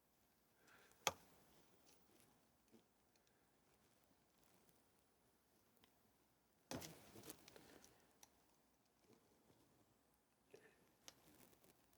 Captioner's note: silence